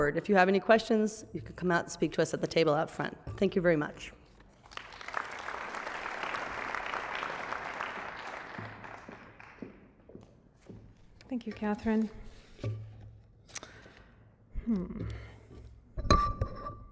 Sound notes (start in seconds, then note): 4.5 applause